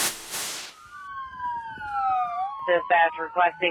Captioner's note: sirens wailing